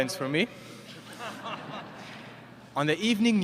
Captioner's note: laughter